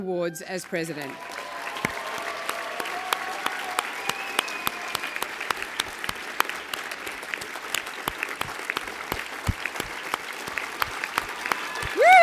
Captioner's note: applause